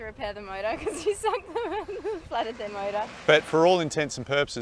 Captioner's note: laughing